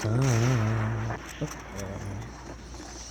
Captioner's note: bats exploding; horse galloping and bats screaming